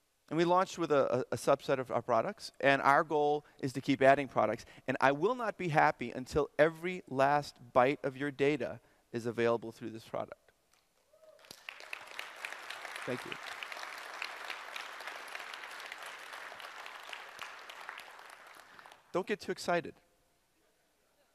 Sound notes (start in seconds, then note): 11.4 audience applause; 13.4 applause continues